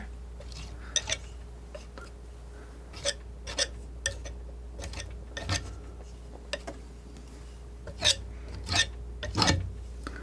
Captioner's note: scraping